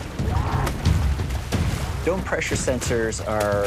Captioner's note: screams